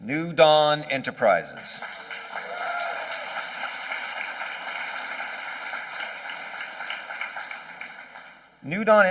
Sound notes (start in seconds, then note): 1.5 applause